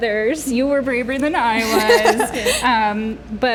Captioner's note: Britannia LAUGHTER